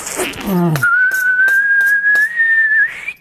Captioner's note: whistling